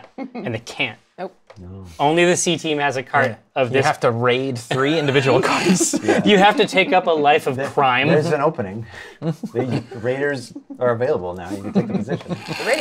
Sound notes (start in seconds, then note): 4.7 laughter